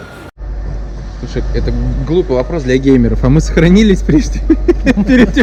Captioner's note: laughs